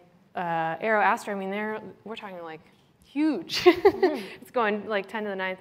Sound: laughs

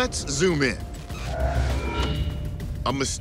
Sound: whirring

